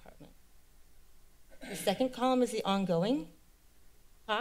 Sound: clears throat

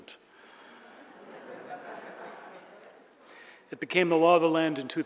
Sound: audience laughing

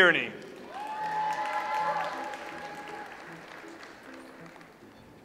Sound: audience applauds

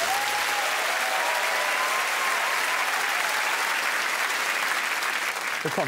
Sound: crowd applauds and cheers

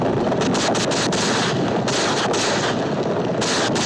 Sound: firing continues

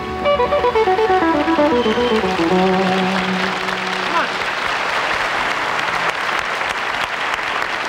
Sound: audience clapping

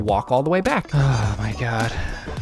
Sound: sighs

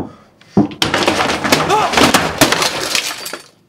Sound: scream

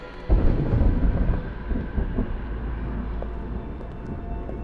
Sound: thunder rumbling

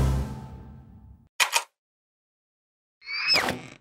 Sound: click

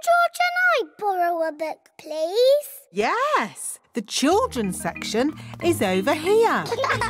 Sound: laughter

